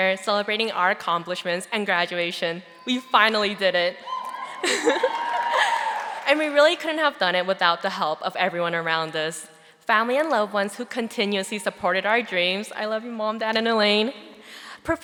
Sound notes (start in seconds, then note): 4.1 audience applauding